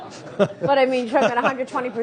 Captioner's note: laughter